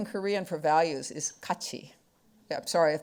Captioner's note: speaking foreign language